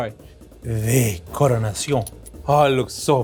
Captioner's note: speaking in foreign language